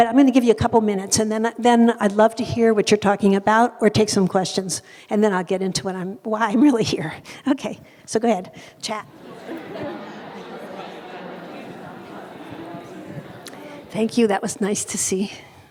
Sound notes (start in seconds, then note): 8.9 people chattering